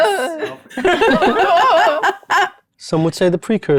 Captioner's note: groaning; laughing